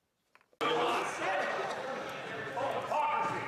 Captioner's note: some Applause; speaking French